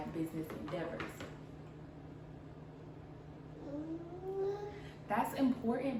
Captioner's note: baby babble